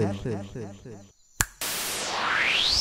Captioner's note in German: Schnips